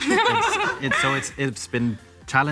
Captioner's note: audience laughs